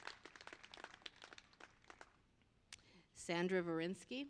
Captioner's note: applause